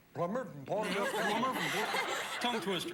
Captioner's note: imitates accent